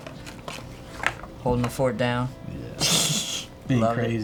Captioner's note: laughs